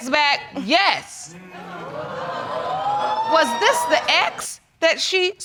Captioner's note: audience exclaims